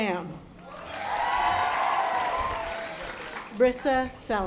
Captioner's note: audience applause